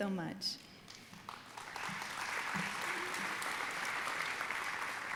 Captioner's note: audience applauding